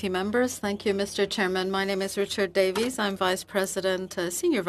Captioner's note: speaking French